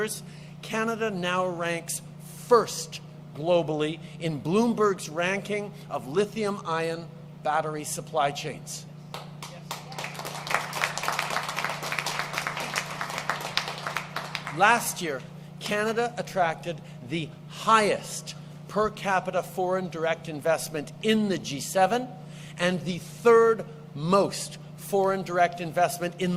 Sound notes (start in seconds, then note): 14.4 applause